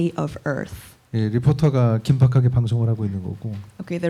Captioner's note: speaking korean